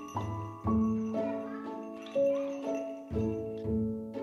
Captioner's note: bell ringing